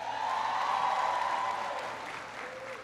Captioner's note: applause